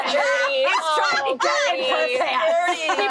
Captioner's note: laughing